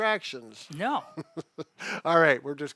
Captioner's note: laughs